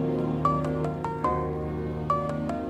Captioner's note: Cellphone rings